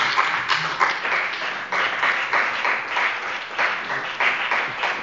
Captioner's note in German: Beifall bei dem BÜNDNIS 90/DIE GRÜNEN und der CDU